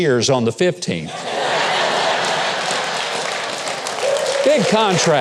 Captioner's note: audience laughing